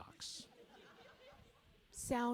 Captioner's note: audience laughing